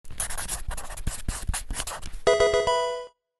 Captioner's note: pencil writing; Pokemon game sound